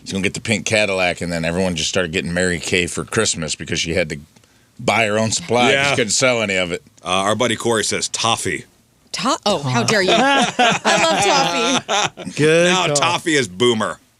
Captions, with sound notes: she's gonna get the pink Cadillac and then everyone just started getting Mary Kay for Christmas because she had to buy her own supply. She couldn't sell any of it. Our buddy Corey says Toffee. Toffee, how dare you? (laughing) I love Toffee. Now Toffee is boomer.